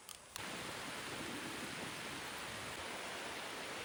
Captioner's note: the rain is pouring hard